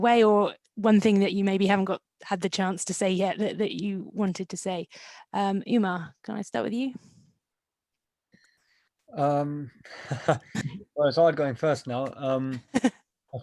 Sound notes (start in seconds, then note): 9.9 laughing; 12.6 laughing